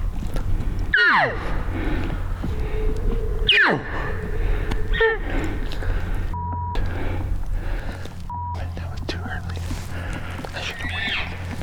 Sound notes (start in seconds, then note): 0.9 cow calls; 3.1 barks